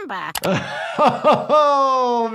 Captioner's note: laughing